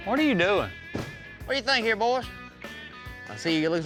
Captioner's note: door closes